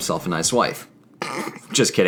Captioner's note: snrk